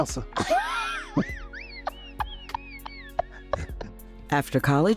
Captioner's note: laughing